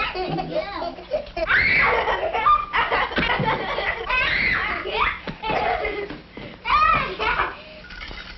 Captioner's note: child humming; children shrieking with laughter; coffee percolating